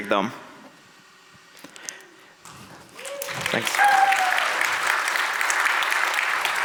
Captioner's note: audience applauds